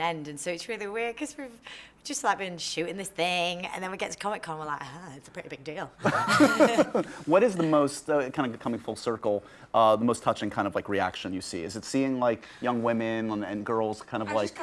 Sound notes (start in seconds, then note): 6.0 laughter